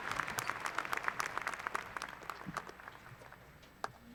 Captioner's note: applause